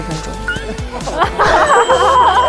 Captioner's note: bursts into laughter